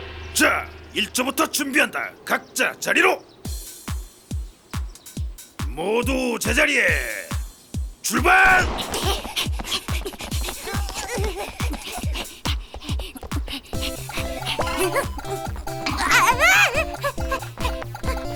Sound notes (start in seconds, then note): 8.7 panting